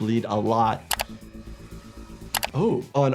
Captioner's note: computer mouse clicks